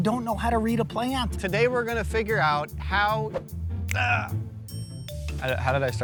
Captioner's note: snaps